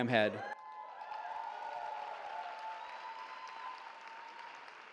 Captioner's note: cheering